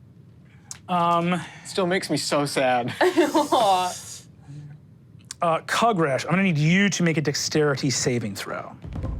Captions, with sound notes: Still makes me so sad. (all laugh) - Kugrash, I'm gonna need you to make a dexterity savings throw.